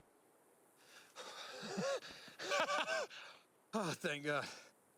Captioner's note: laughing